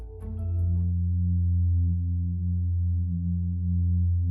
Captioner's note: soft humming sound